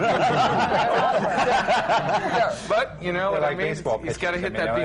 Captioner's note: laughter